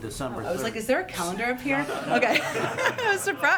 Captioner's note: laughter